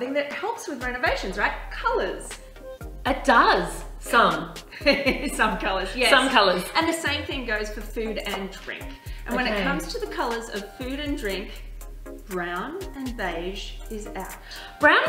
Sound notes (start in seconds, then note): 5.1 laughs